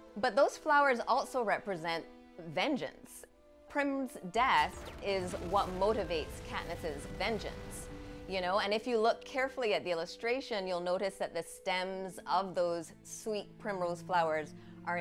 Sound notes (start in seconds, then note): 4.4 bombs exploding; 7.4 flames roaring